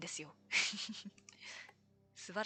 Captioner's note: laughs